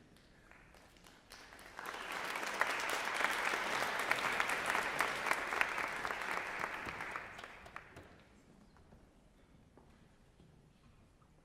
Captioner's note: applause